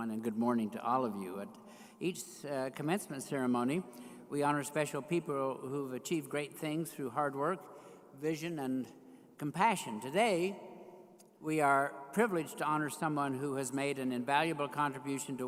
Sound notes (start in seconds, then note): none